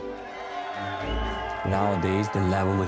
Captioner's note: people applauding